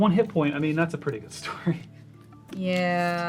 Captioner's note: laughs